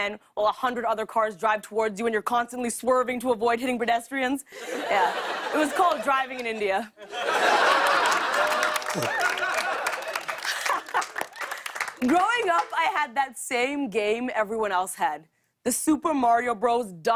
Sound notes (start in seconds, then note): 7.0 laughter; 9.9 laughs